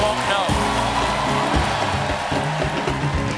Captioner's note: band playing; cheers and applause